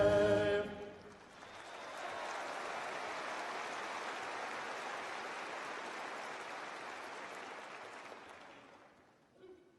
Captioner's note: applause